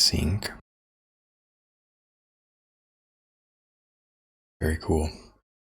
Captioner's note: silence